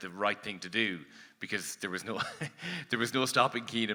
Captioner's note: laughs